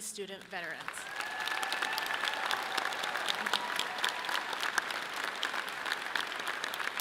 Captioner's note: audience clapping and cheering loudly